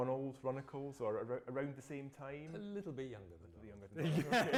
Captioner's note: both laugh